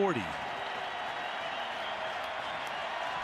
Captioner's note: crowd cheering